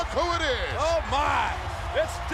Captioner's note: crowd cheering